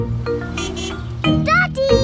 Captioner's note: horn honks